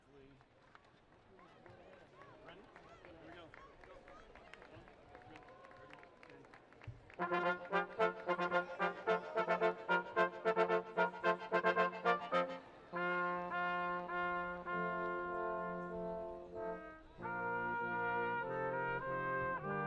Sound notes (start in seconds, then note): 1.3 people chattering; 7.2 upbeat music